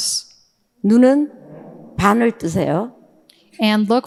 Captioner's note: speaking in foreign language